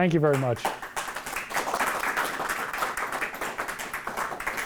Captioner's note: applauding